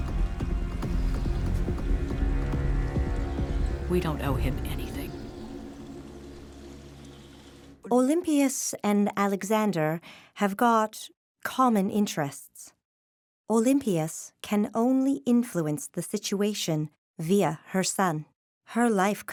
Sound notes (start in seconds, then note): 8.0 in German